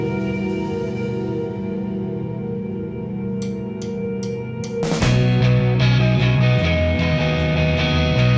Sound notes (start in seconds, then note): 3.4 drum sticks tapping; 5.1 rock music